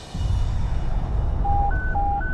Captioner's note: beeping